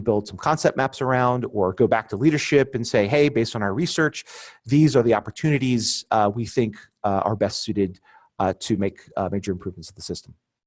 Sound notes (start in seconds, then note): none